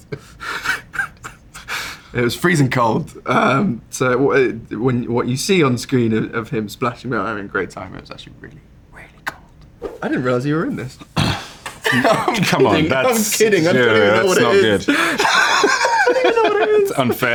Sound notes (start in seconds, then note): 9.8 slide swipe